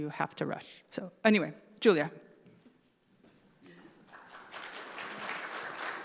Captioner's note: audience applauding